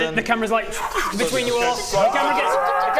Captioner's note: zwo-oosh